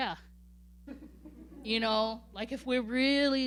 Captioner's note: laughing